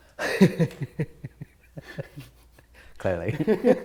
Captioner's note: laughing